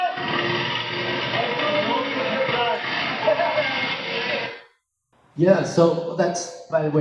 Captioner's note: street sounds